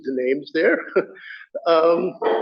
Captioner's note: laughter